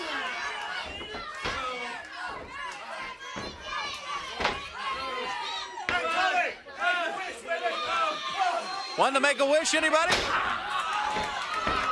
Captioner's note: crowd chatter